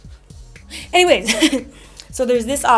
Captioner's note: laughs